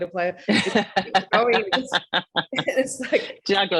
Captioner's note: laughing